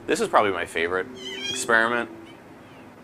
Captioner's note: animal squeaking